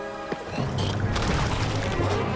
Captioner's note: water splashing